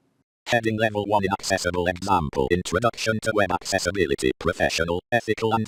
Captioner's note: screen Reader Voice